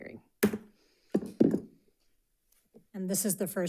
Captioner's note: gavel clacks